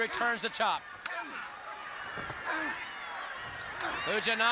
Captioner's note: audience chattering